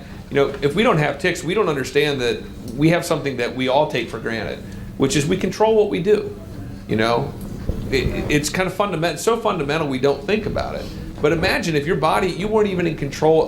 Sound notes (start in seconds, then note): none